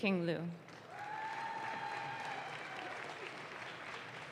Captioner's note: audience claps